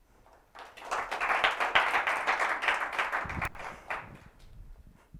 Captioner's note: applause